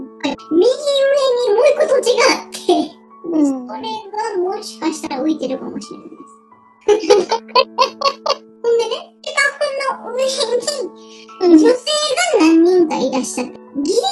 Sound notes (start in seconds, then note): 6.9 laugh